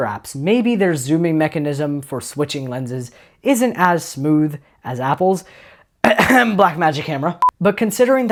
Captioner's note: ahem